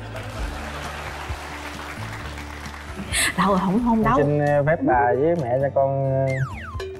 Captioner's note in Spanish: Aplaudir